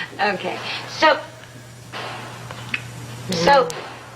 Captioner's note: banging noises in the background